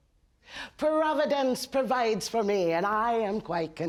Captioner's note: in an Irish brogue